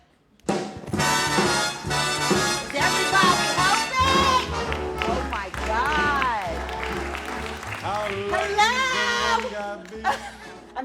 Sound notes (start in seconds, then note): 5.9 applause